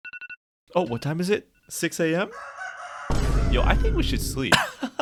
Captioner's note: alarm sounds